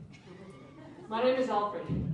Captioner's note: laughter